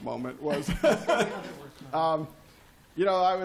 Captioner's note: laughter